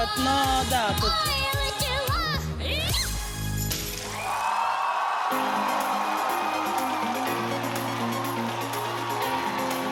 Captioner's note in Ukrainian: оплески